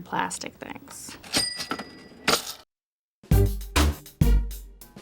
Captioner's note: cash register rings